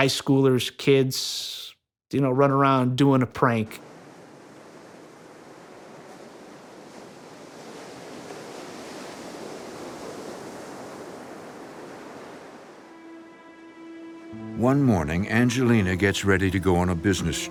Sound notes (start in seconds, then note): 3.5 waves crashing; 12.8 soft pensive music